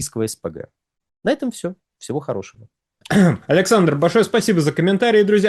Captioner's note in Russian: откашливается